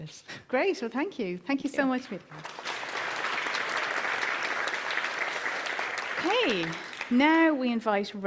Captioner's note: applause